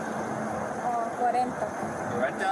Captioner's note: speak in Foreign language